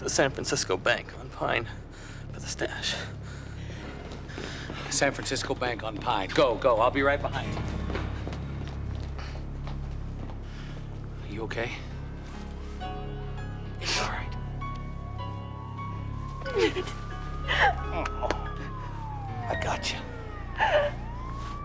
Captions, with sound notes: The San Francisco Bank on Pine for the stash. The San Francisco Bank on Pine. Go. Go. I'll be right behind you. Are you okay? (sniffing) It's all right. (siren wailing) I got you.